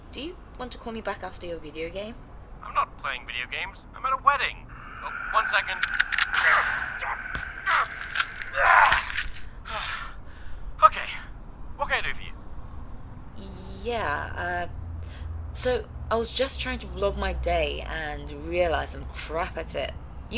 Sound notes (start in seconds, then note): 6.3 gunshots; 7.5 violent noises; 10.0 panting. out of breath